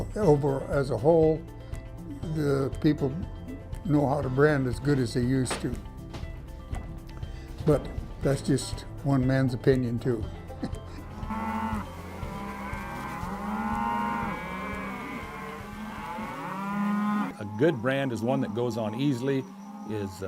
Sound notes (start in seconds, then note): 10.5 laughs; 11.5 cattle lowing